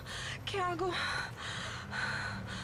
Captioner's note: panting